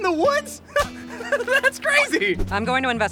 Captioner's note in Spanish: Risa nerviosa